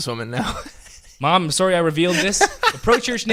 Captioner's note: laughs